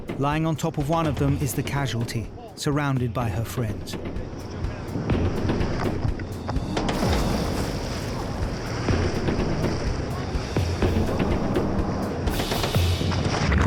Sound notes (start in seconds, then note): 3.8 water splashes; 4.9 tense music continues